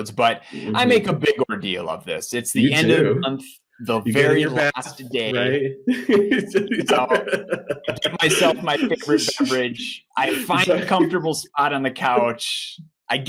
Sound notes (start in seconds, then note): 5.9 laughs